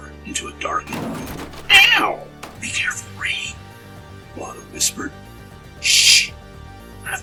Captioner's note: sound of crash